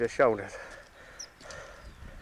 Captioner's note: panting